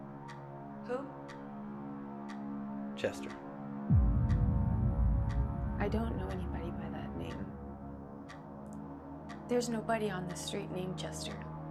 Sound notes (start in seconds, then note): 3.9 clock ticking; 3.9 gentle tense music